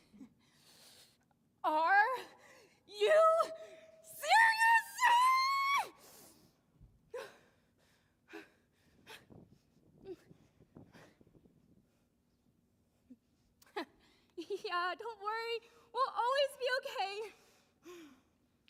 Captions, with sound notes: Are you serious? (screaming loudly) Don't worry, we'll always be okay.